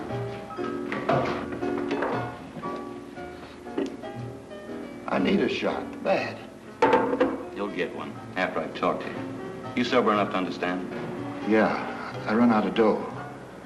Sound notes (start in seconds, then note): 0.0 jazz music; 6.8 bottle sets down